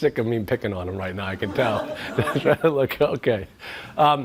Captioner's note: laughs